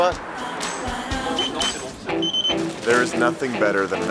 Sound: register beeping

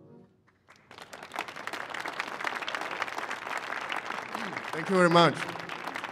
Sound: applause

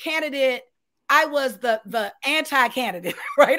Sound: laughs

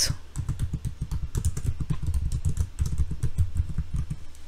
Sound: keyboard clacking

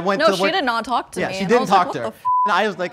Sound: beep

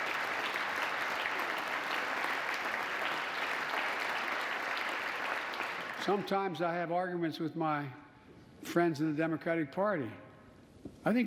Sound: applause

